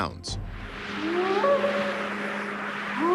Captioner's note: short howls